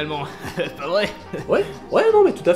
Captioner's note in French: rires gras et beauf